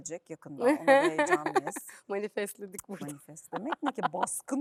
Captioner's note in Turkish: kahkaha